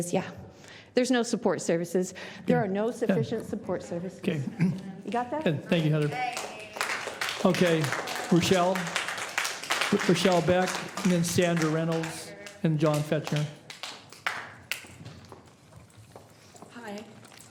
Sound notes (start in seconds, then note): 10.3 applause